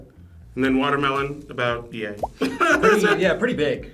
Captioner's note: laughs